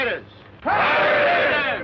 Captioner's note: cheering